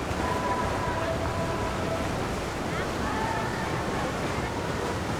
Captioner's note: roaring water